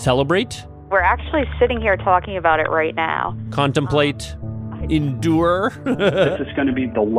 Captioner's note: laughs